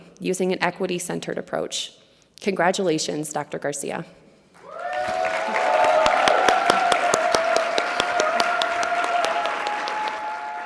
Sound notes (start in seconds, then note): 4.6 audience cheering and clapping